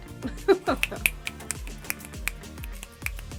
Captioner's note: snaps